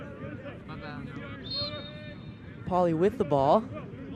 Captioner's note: whistle blows